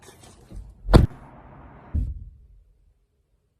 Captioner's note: slams door shut